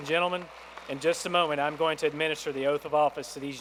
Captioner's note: applause